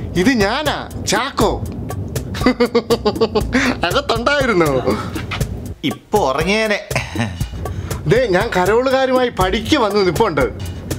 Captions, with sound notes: This is me. Chacko! [giggles] So, you were inside? I would have slept off now. [faint laugh] I'm at your doorstep with the caroling group.